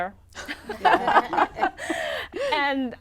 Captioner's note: laughter